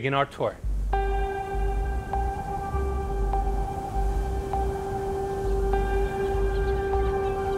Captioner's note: gentle ambient music; waves crashing